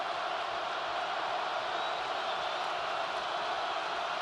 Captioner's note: crowd cheering